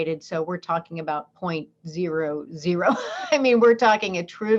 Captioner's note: laughs